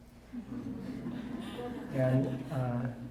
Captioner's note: audience laughing